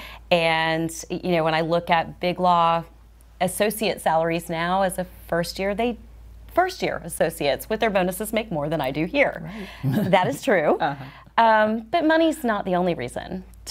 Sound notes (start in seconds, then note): 9.6 chuckles